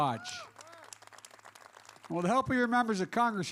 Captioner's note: applause